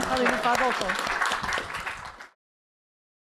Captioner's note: applause